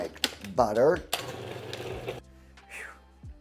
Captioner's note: blender whirs